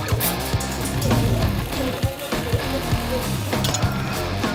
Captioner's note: blender ON